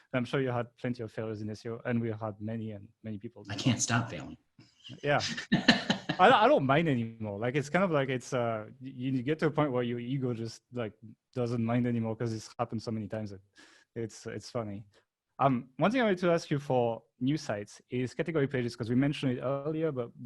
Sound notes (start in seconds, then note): 5.1 laughing